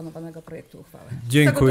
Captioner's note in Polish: głosy w tle